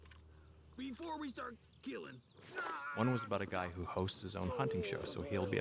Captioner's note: narrating